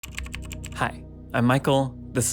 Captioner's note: keyboard keys tapping